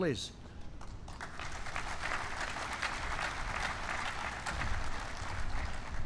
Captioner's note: applause